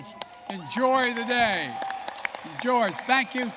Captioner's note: applause